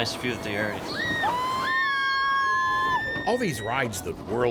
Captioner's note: screaming